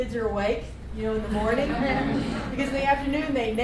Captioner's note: laughter